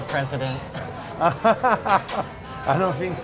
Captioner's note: laughs